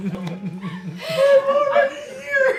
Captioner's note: giggling